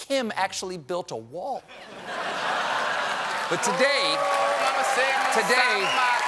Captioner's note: cheers and applause